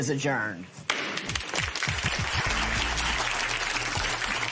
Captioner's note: applause